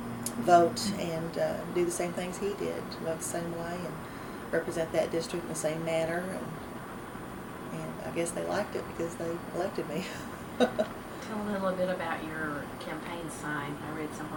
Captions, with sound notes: vote and do the same things he did, vote the same way and represent that district in the same manner. And I guess they liked it because they elected me. (Laughs) Tell me a little about your campaign sign. I read